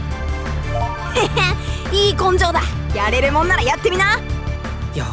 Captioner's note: chuckle